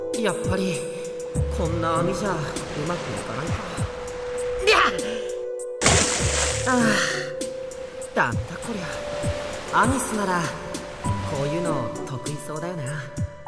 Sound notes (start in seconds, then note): 6.6 sigh